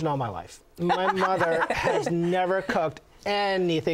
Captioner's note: laughter